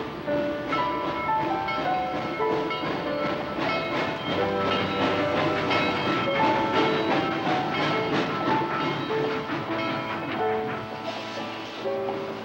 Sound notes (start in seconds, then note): 1.4 railroad bells clanging